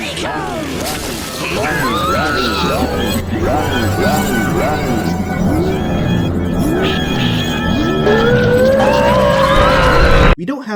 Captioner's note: woman in commercial screaming